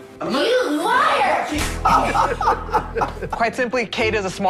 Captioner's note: Sharks laughing